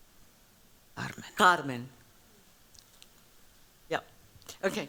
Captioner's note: spanish